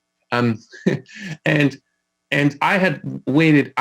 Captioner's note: laughing